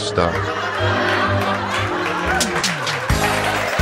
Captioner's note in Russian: Смех и апплодисменты; п а ф о с н а я музыка